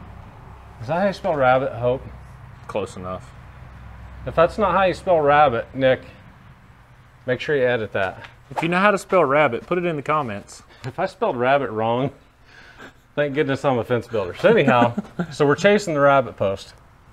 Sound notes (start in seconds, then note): 12.6 laughs